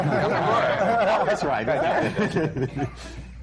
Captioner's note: laughter